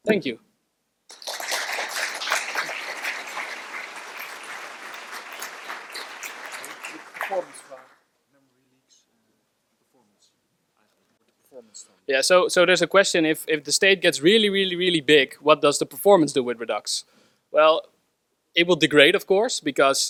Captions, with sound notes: Thank you. (audience applauds) So there's a question, "If the state gets "really, really, really big, "what is the performance with Redux?" Well, it will degrade of course,